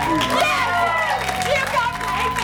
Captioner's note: cheering, applause